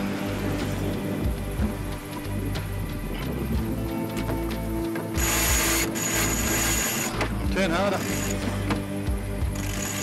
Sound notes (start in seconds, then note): 0.0 wind blowing; 5.4 chain pulling